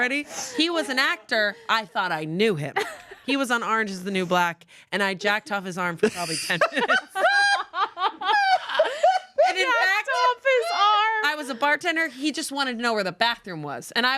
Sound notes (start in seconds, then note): 6.1 everyone laughs